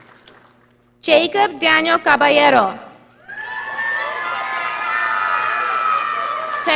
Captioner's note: audience applauding